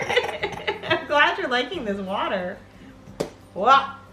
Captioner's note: laughs